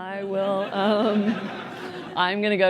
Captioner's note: laughter